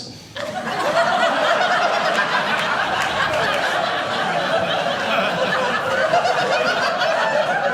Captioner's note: audience laughing